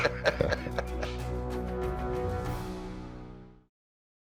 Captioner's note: laughter